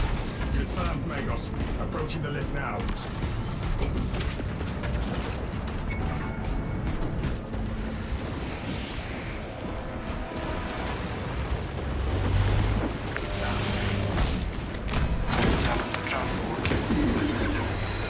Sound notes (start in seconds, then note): 4.6 gunfire